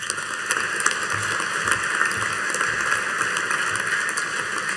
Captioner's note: audience applauding